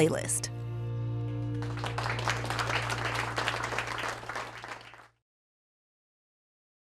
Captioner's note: applause